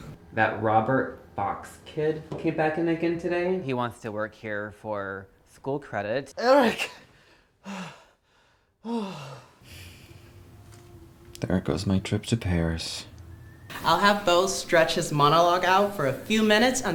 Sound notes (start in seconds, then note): 6.9 heavy breathing; 8.8 sigh